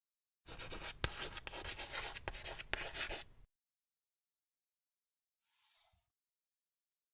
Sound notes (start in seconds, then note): 0.4 writing on chalkboard